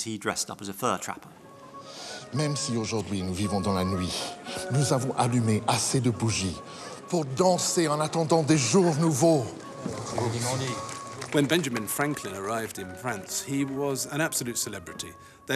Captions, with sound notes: He dressed up as a fur trapper. (Franklin speaking in French) (bright music) - When Benjamin Franklin arrived in France, he was an absolute celebrity.